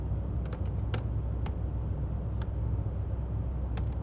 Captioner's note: plastic clicking